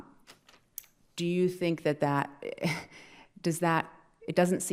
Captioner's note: laughing